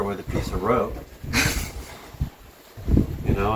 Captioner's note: laughing